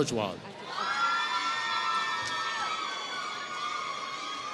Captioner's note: applause